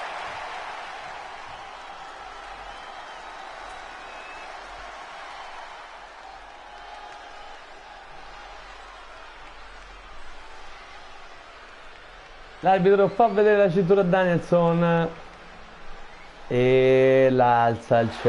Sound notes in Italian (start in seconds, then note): 7.5 Applauso